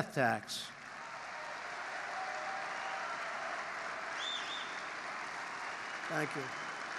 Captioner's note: applause